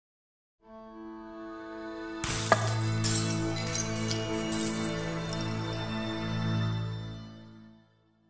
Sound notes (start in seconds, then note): 0.8 light music; 2.2 glass shatters